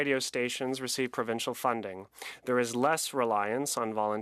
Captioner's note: speaking French